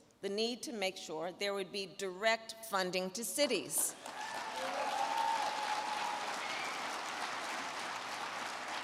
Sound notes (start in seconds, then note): 3.9 crowd clapping and cheering